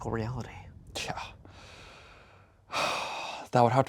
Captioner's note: sighs